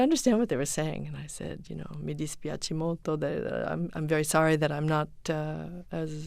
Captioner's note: foreign language spoken